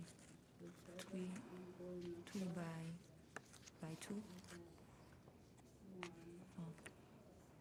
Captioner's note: students chattering faintly